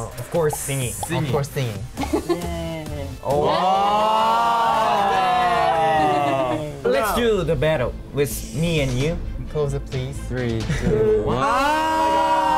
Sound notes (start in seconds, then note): 4.2 laughs; 5.0 band exclaims